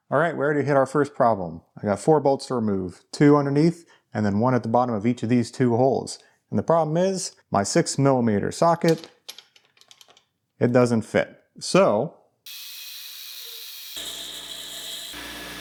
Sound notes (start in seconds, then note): 8.8 socket clinking; 12.5 machine buzzing